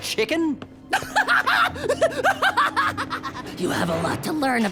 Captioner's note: laughing maniacally